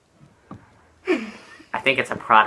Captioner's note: laughter